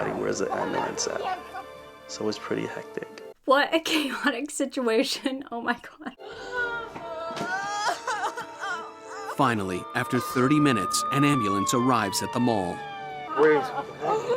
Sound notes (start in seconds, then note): 7.1 cries